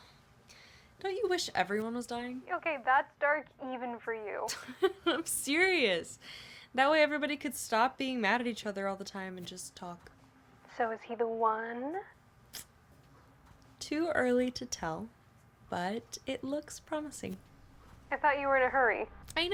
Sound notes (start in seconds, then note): 4.5 Fern laughs